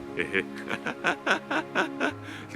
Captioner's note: laughs